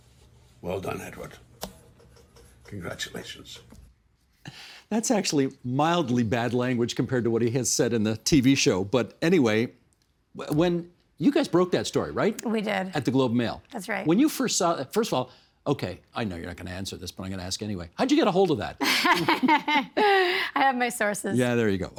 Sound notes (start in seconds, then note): 18.8 laughing